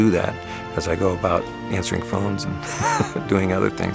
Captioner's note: chuckles